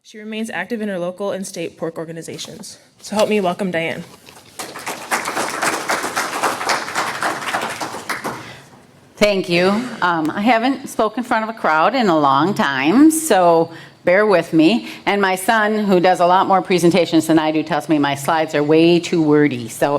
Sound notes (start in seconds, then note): 4.3 audience clapping